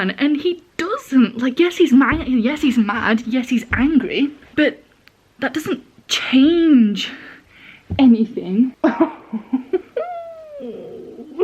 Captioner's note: more regretful laugh